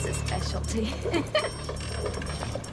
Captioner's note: Joanna chuckling